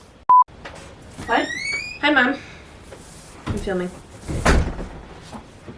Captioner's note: door creaks open; door shuts